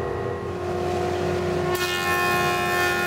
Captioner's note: sounds of sawing